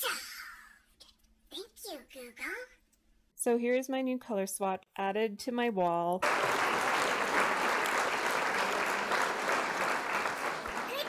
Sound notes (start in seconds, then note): 6.2 applause